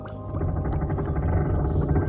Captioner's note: creaking noises